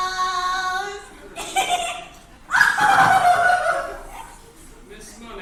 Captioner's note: Ernestina cackling